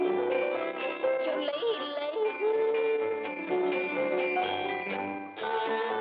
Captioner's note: whistling; yodeling; whistling; yodeling